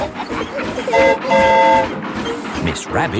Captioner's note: train whistle toots